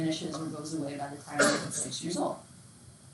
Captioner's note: students cough drowns the sound